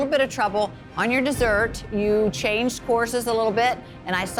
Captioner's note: metal clanging